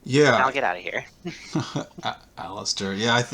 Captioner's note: laughs